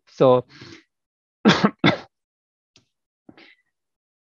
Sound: coughs

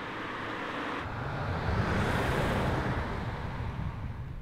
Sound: vehicle passing

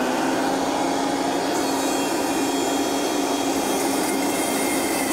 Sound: blender roars

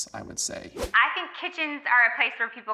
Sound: on phone

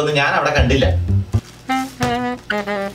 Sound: bag thuds

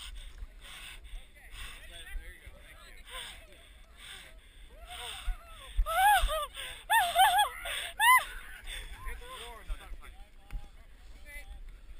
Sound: swimming and background chatter

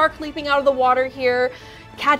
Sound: none

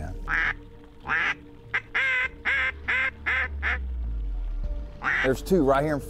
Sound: duck calls

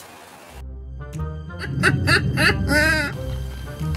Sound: laughing

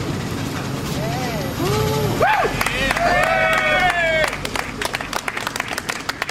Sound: applause

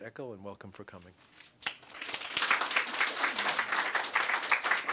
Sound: applause

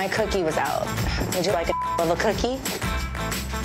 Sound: beep

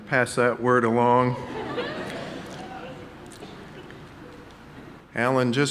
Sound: audience laughing

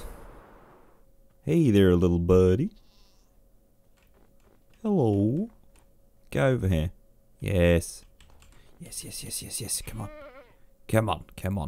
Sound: questionable American accent

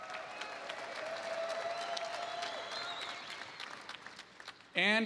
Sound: applause

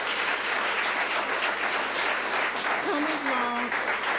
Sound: public applauding

